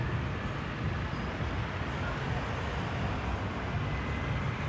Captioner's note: street noise